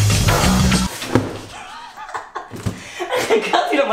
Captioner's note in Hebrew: צחוקים ברקע